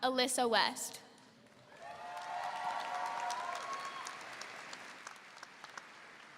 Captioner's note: audience applauding and cheering